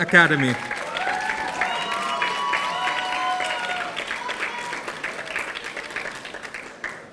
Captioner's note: audience applauding; audience cheering